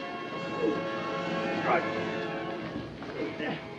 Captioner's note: grunts